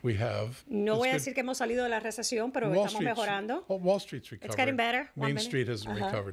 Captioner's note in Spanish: Hablando ingl\s